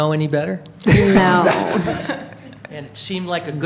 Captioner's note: laughter